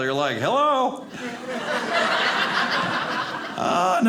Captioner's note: audience laughing